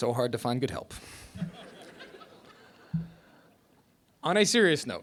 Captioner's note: laughter